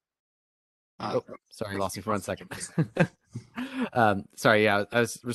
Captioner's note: laughing